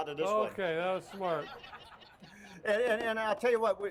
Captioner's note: crowd laughs